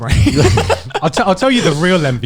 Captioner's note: laughing